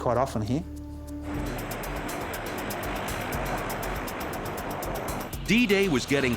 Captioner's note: gentle dramatic music; airboard whirring